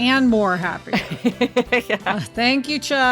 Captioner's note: laughs